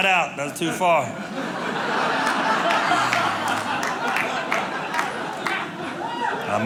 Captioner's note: audience clapping